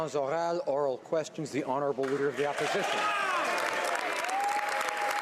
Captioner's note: some Applause